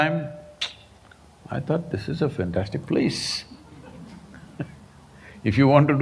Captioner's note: few laugh